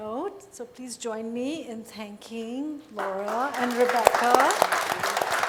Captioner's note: clapping